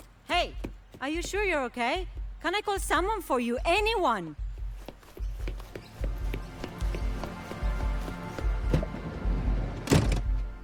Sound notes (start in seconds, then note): 4.6 underscored heartbeat; 9.8 door crash